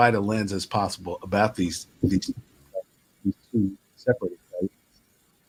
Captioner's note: audio distorts